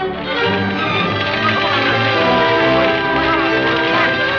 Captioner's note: fire crackling; dramatic music